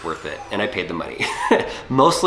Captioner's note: laughs